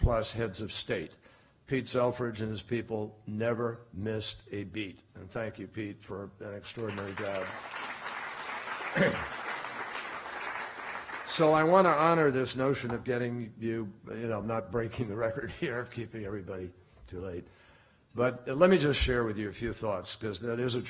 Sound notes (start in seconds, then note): 9.9 applause